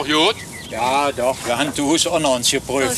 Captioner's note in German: Arbeitsgeräusche und -gespräch